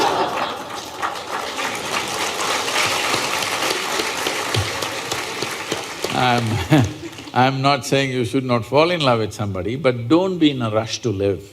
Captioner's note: laughter/Applause; laughs